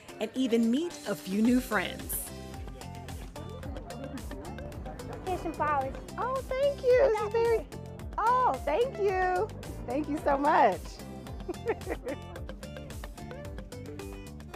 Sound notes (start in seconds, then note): 11.4 laughing